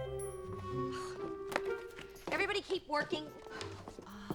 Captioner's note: sighs